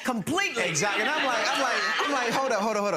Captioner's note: gallery laughs